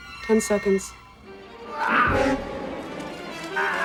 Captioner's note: beeping; yells